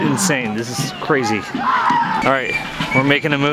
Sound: men screaming

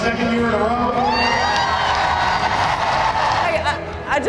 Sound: cheers and applause

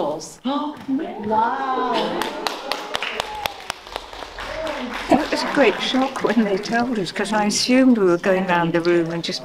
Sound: applause

